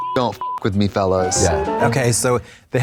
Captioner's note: beep; bright chime